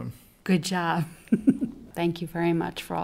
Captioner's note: laughs